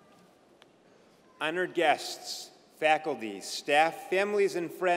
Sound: none

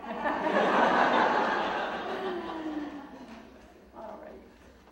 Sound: audience laughing

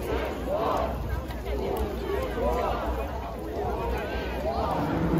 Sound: chanting

